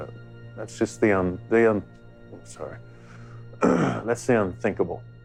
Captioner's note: clears throat